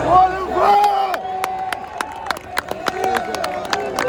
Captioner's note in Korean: 박수와 환호가 엄청났다